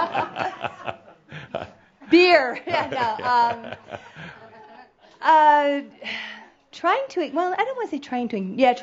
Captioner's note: Adamus chuckles; she sighs